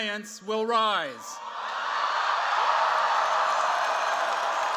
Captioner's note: cheers, applause